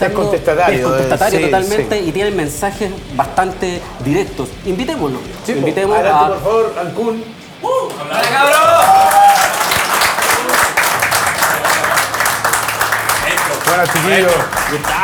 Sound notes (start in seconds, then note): 9.4 cheers and applause